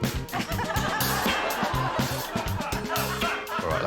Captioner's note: laughter